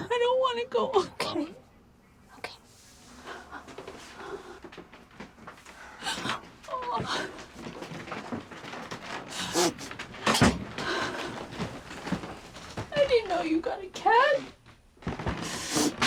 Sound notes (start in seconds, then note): 9.2 sniffling